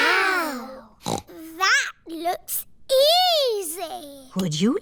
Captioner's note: snorts